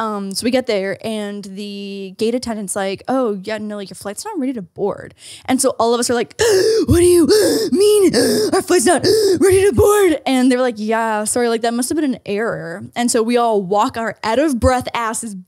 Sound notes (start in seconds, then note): 6.3 gasps